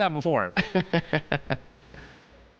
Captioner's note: laughing